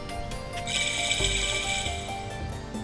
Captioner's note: Age up sound